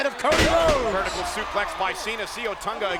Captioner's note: body thudding